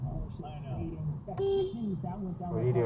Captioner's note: beep